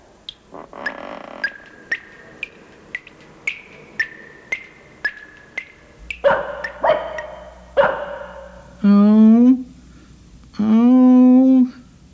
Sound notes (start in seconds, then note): 0.2 dripping; 6.1 barking